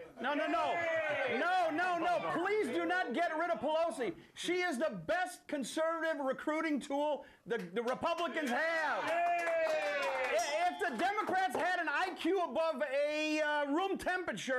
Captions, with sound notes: - NO, NO, NO. PLEASE DO NOT GET RID OF PELOSI. SHE IS THE BEST CONSERVATIVE RECRUITING TOOL THE REPUBLICANS HAVE. [Audience cheers] [BELL RINGS] [Applause] - IF THE DEMOCRATS HAD AN IQ ABOVE ROOM TEMPERATURE,